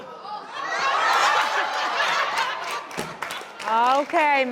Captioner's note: audience laughing